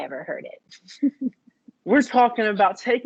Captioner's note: chuckles